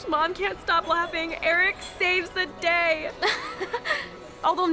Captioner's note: laughs